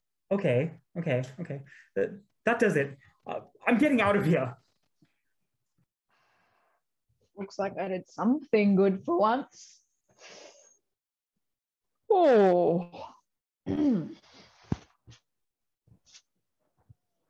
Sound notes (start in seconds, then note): 11.7 MORGAN Yawns and Clears Throat